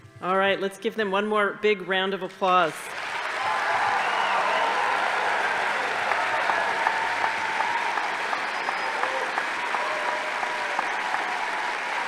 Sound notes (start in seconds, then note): 2.8 audience applauding; 2.8 crowd cheering